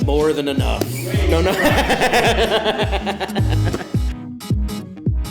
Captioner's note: Ben and Bobby laugh